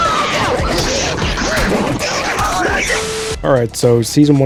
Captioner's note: Incoherent fortnite noises